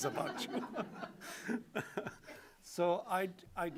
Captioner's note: laughter